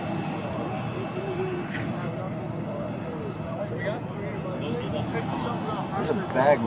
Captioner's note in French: groupe conversant indistinctement